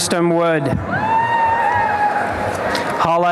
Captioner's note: applause and cheering